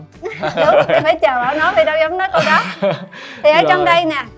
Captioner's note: laugh